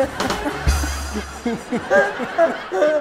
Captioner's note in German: Lachen